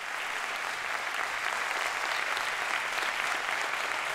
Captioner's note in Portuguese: Aplausos